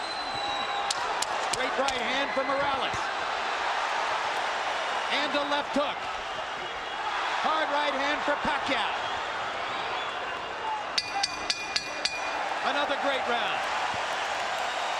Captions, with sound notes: STRAIGHT RIGHT HAND FROM MORALES. AND A LEFT HOOK. HARD RIGHT HAND FOR PACQUIAO. [BELL DINGS] ANOTHER GREAT ROUND. [CHEERING]